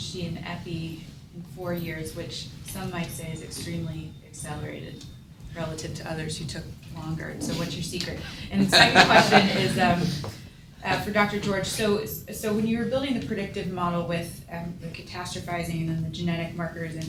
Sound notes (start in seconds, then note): 8.7 laughter